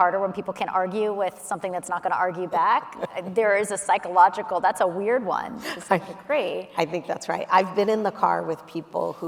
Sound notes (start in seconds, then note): 3.0 laughing